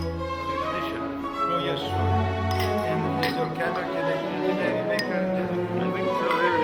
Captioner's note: all chattering in the Russian language